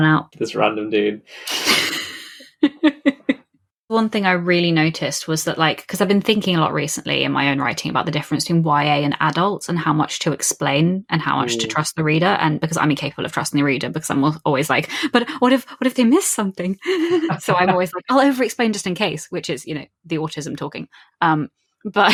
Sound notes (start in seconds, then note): 1.3 laughs; 16.8 laughs; 16.8 shaky gasp